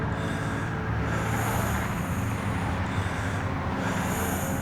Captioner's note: deep breathing